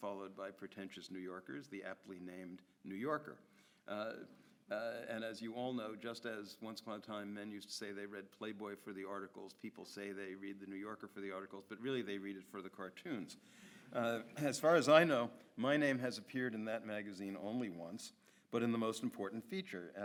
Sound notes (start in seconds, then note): 14.7 audience laughs